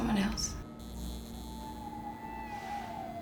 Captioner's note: lights buzzing